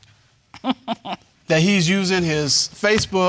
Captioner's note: chuckles